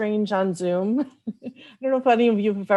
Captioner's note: laughs